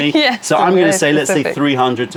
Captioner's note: laughter